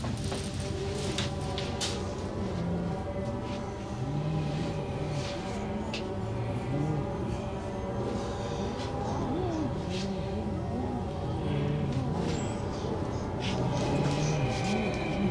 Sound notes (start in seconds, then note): 0.2 tense music; 8.0 disembodied moans and groans